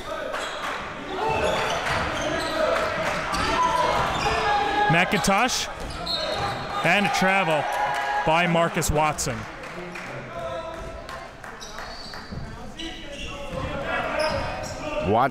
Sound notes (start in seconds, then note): 0.2 crowd cheering; 6.2 whistle blows; 12.0 crowd cheering